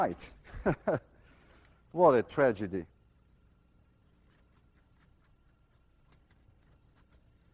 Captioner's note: Lewin chuckles